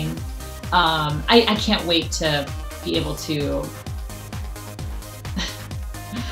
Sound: laughs

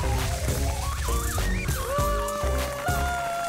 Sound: screaming

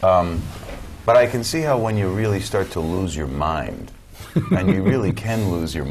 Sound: laugh

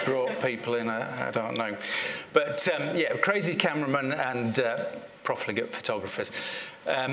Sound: laugh

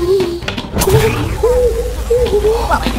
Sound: power energizing; gibbering

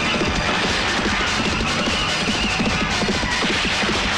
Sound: gunshot; tires squealing; gunshot

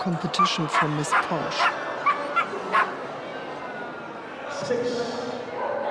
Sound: Posh barks

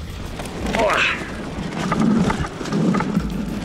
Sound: grunting

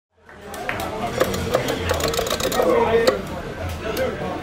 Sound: crowd chatting

